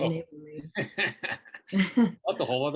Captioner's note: group laughs